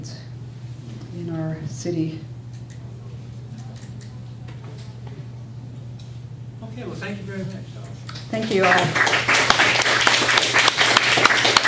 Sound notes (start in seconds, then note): 8.1 applause